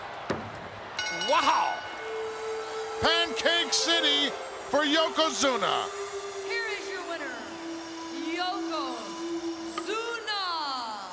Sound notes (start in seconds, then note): 0.9 bell rings